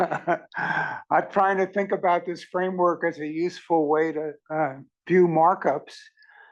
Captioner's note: laugh